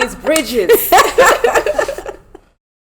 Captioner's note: laughter